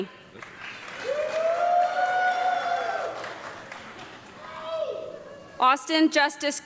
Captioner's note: audience clapping and yelling